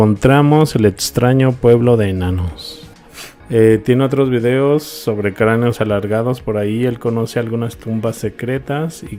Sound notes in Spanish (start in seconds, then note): 3.1 resoplido